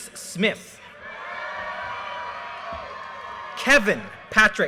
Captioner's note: audience cheers and applause